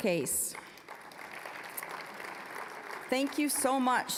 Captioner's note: applause